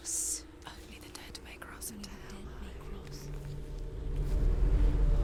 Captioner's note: whispering; whisper